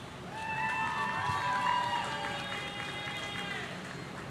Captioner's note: audience cheering